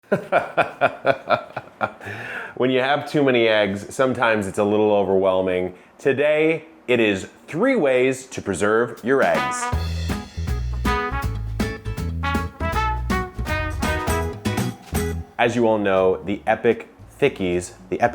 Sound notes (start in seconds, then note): 0.0 laughs; 9.1 upbeat music